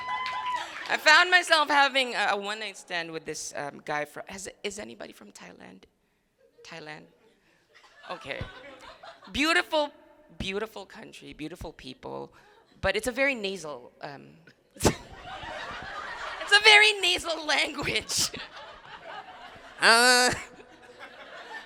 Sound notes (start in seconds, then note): 5.8 crowd laughing; 14.8 crowd laughing; 14.9 laughs; 17.9 crowd laughing